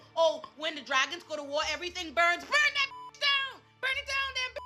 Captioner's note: beep